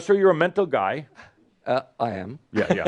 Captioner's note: he chuckles